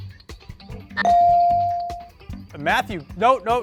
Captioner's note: bell ring